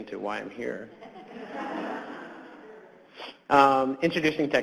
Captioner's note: audience laughs